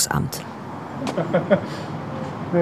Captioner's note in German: Lachen